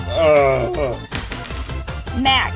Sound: coin clinks

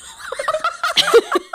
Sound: both laughing

